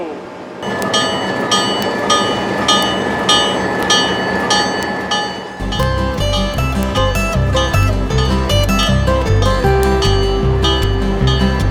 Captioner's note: bell